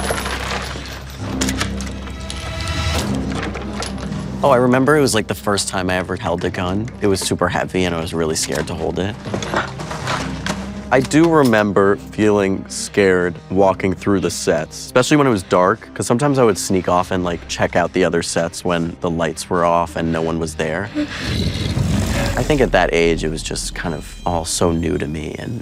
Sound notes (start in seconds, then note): 0.2 ominous orchestra music; 20.9 Demogorgon growls